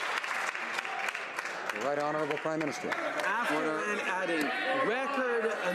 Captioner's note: some Applause